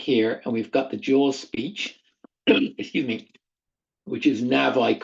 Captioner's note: coughs